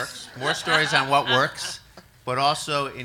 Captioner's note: audience laughs